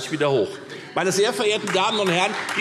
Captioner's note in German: Beifall Freie Demokraten